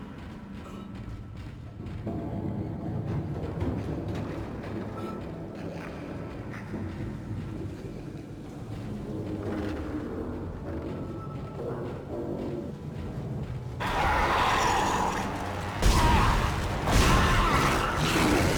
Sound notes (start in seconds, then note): 0.1 dramatic music; 10.9 screaming; 15.8 gunshots